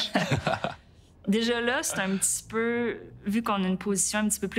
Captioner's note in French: rires